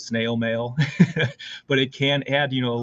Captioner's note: laughter